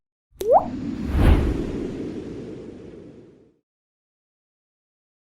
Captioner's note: water drop; wind noises